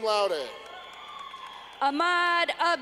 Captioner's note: clapping